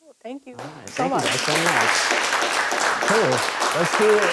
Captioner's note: participants applauding